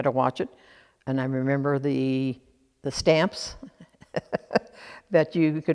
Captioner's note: laughs